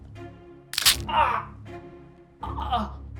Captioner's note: neck cracking